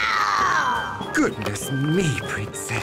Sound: roars

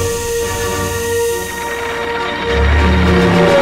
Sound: rattling; roaring

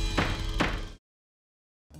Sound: gavel bangs

